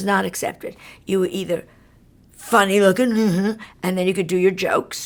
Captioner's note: jeers